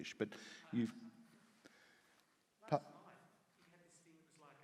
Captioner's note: speaks faintly